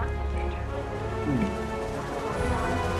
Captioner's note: gulp